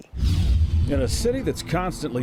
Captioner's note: page swishing